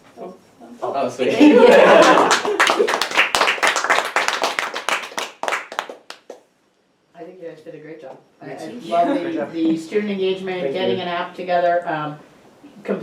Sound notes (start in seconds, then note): 1.4 everyone chuckles; 1.4 audience applauding